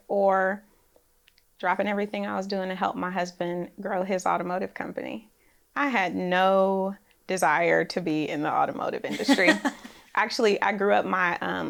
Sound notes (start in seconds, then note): 9.0 laughs